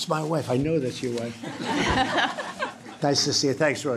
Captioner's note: laughter